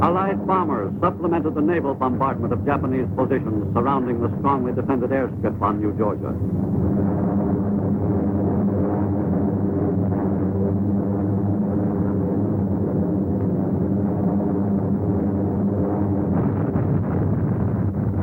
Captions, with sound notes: Allied bombers supplemented the Naval bombardment of Japanese positions surrounding the strongly defended airstrip on New Georgia. (airplane engines roaring)